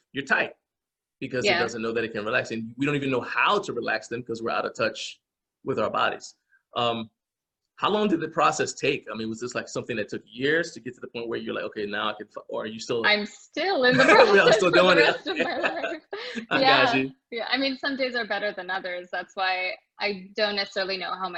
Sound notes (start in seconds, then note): 13.9 both laughing